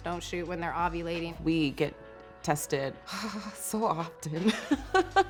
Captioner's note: laughing